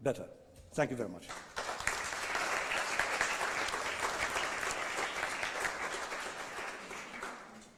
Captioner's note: applause